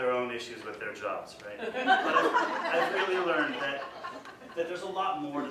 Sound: audience: laughter

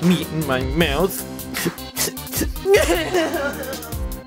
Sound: cries

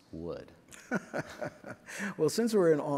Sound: laughs

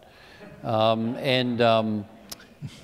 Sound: laughter

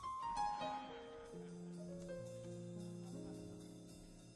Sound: audience laughs

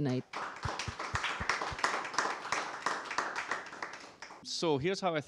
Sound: applause

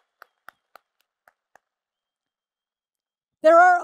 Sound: applause

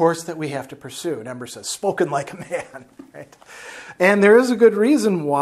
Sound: laughs

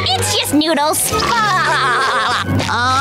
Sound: laughing

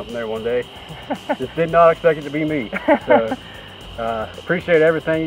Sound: laughter

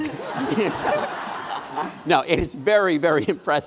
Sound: laughing

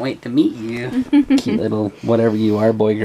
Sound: laughs

